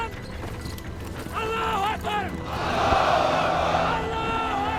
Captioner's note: shouting in arabic